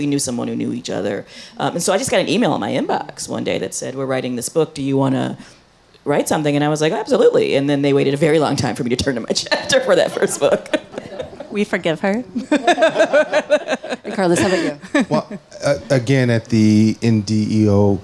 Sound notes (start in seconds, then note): 12.3 laughs happily; 12.3 chuckles